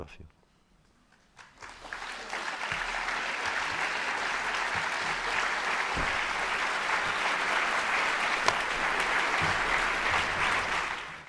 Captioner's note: applause